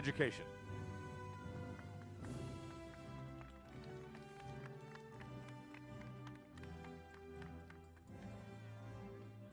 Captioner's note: applause